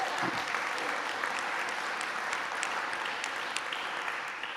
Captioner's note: applause